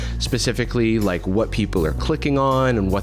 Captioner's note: none